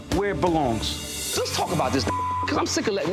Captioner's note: beep